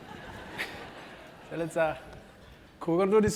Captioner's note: laugh